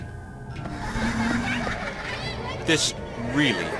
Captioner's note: ghost child laughing